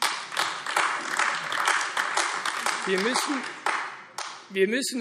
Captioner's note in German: Beifall AfD